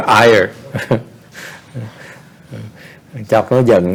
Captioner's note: chuckle